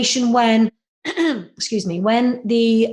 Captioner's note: clears throat